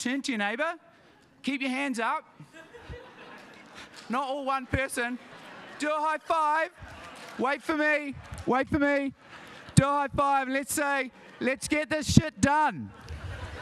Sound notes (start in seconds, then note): 2.4 audience laughs; 6.1 audience laughs; 8.1 hands slap